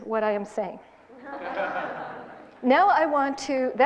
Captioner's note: laughs in the audience